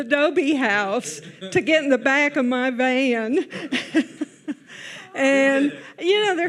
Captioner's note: laughs